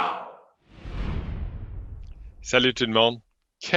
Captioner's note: whooshing